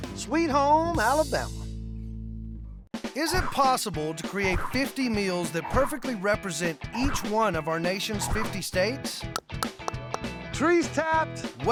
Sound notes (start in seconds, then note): 9.3 tapping